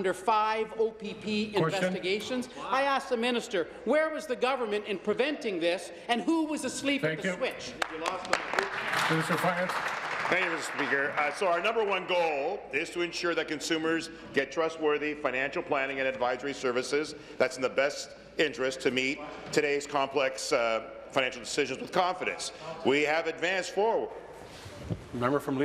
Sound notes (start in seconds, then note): 12.0 applause